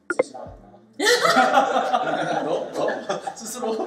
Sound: laughs

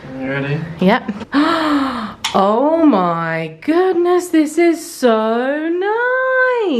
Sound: gasps

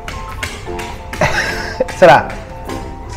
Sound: laughs

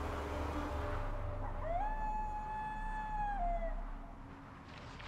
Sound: coyote howls

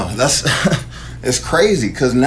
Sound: laughing

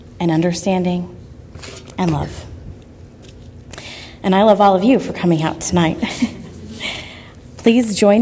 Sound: laugh

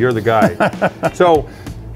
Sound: laughs

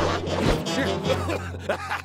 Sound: coughing

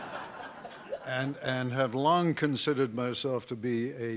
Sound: laughter

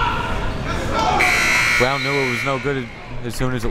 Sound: buzzer

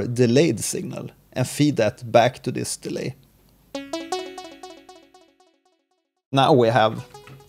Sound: feedback delay

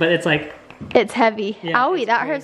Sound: knocking stone

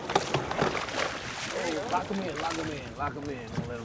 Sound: fish splashing

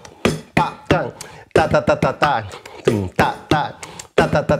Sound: vocalizes rhythm

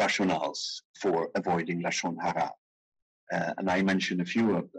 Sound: speaking in foreign language

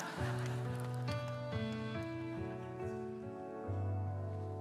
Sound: congregation laughing

